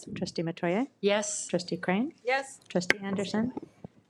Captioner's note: none